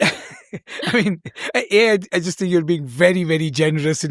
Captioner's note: laughter